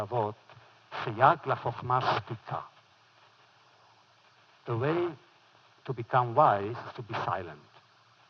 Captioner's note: foreign language